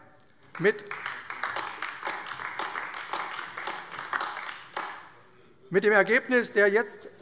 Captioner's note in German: Beifall AfD - Zurufe CDU